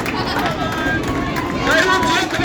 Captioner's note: applause